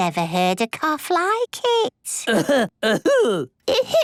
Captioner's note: coughing